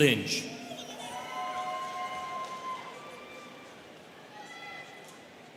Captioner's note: students cheering